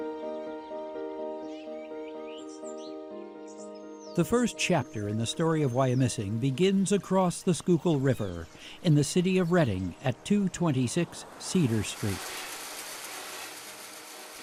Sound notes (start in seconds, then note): 0.1 pleasant music; 2.1 birds chirping; 12.4 machinery whirring